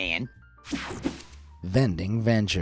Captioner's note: screen whooshing